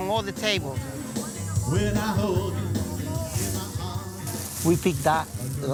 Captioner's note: blues music continuing; bag rustling